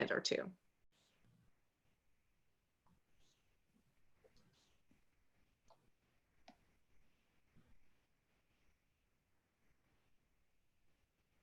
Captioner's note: silence while connection is established